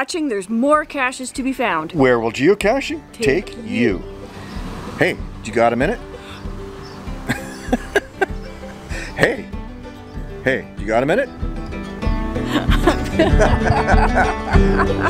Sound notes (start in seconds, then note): 7.2 chuckles; 12.4 laughter